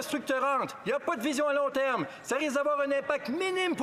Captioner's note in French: voix de l'interprète